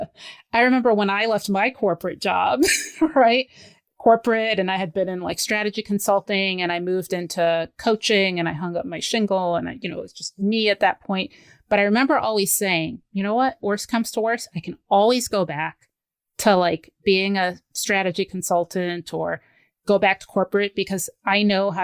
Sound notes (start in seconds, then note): 2.8 laughs